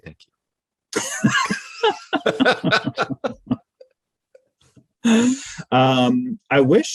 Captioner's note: laughing loudly